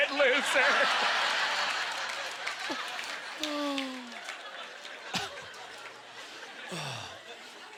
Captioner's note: audience laughter